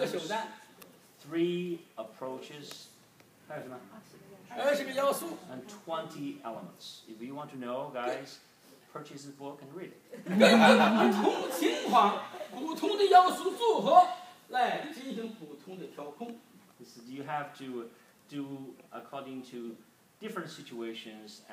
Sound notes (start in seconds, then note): 0.2 speaking foreign language; 3.1 speaking foreign language; 10.1 group laughs; 12.4 speaking foreign language